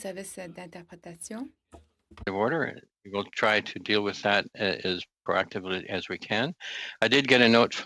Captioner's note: speaking French